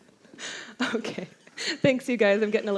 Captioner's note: laughs